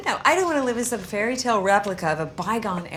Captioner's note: none